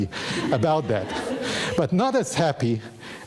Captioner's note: audience laughing